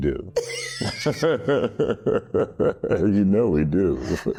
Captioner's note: laughing